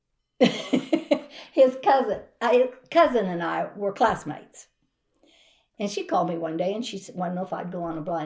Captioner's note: laughs